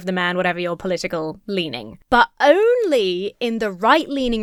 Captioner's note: none